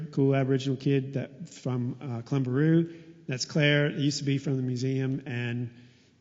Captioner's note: none